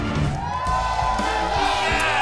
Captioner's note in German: Jubel, Applaus